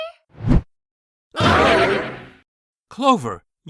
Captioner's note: all scream